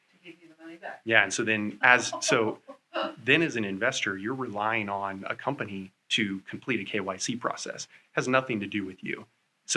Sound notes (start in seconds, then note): 1.9 laughter